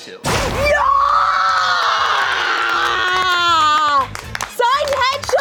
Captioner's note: cheer